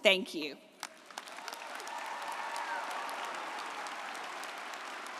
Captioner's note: audience applauding